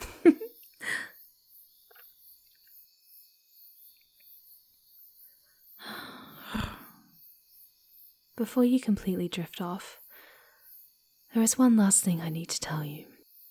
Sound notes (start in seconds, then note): 0.0 grins and giggles; 5.9 quietly purring